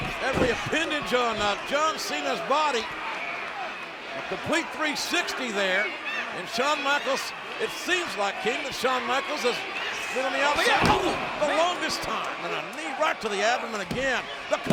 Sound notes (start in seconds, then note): 11.0 blow thudding; 13.9 hands thudding